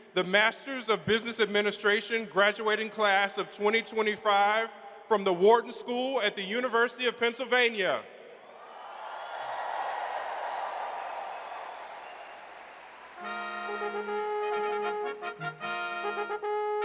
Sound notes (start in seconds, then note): 8.5 audience cheers; 13.1 regal brass band music